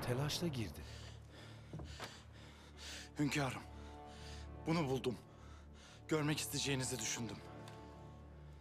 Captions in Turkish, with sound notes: (Nefes sesi) Hünkârım, bunu buldum. Görmek isteyeceğinizi düşündüm.